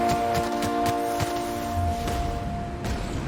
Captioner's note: gunshots